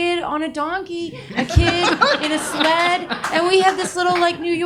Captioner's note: audience laughs